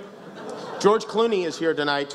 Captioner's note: laughs